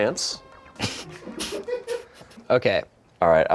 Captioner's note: laughs